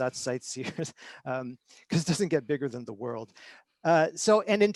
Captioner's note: chuckles